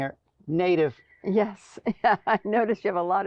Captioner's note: laughing